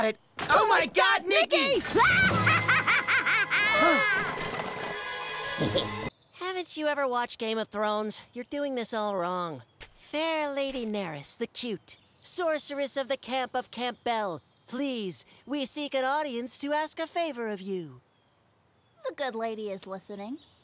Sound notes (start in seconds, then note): 2.0 maniacal laughter from Nikki